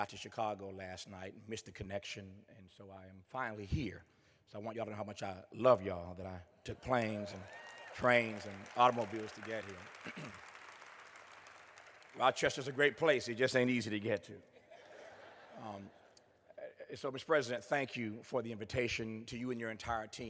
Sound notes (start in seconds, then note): 10.3 applause